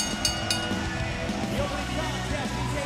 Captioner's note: bell ringing